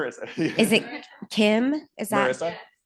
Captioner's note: laughter